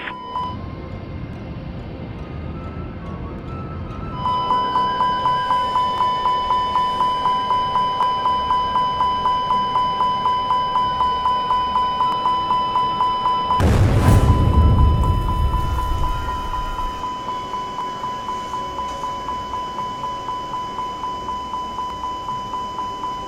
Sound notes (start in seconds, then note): 0.6 intense Music; 4.3 warning Beep sound; 13.6 blast Sound